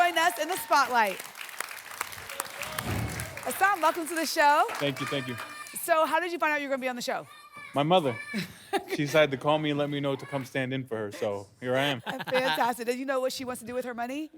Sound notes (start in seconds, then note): 1.7 applause and cheering cont